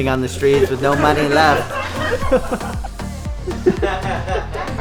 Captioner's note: chuckles